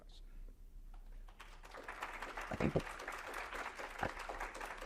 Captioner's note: audience applauds